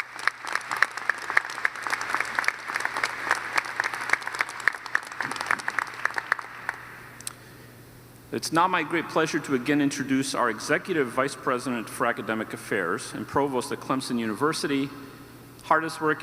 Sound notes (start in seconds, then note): 6.7 applause